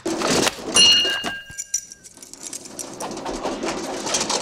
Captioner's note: bell dings; iron clatters